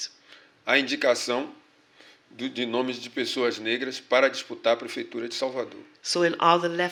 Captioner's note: speaking portuguese